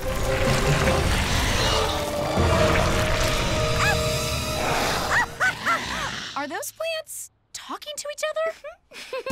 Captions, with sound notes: [PLANTS GROWL] Are those plants... talking to each other? [ALL GIGGLE AND GASP] Are they dancing?